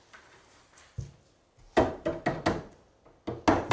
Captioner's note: knocking